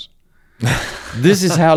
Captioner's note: laughs